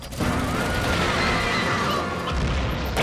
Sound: screaming

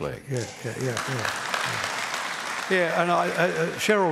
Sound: applause

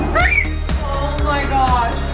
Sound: screams

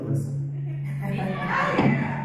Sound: laughs

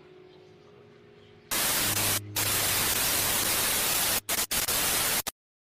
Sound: TV static

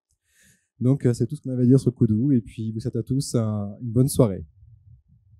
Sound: translating into french

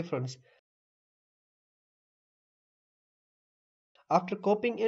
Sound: awkward silence

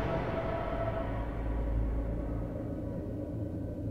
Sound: wind blowing silently

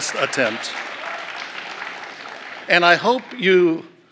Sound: applause

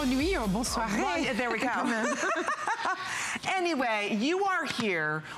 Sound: laughter

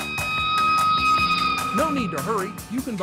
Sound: siren

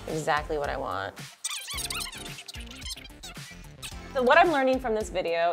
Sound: squeaking

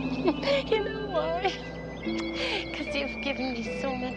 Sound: chuckles

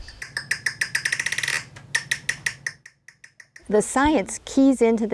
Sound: chirping bat call

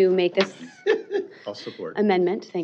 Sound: laughter

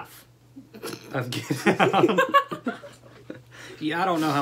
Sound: laughter

